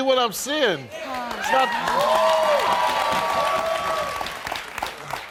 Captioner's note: crowd cheering